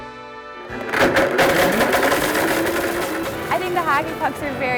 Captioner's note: blender crunches